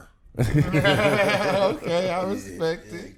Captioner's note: laughing